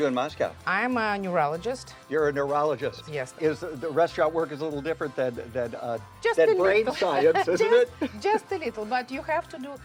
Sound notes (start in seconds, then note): 7.2 John laughs; 7.2 laughs